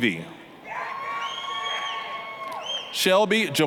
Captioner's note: applause, cheering